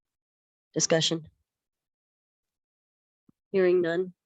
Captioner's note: members are silent